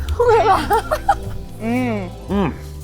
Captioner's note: laughs